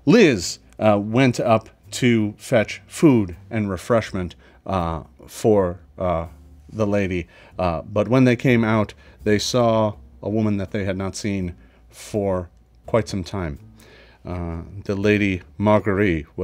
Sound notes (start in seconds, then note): none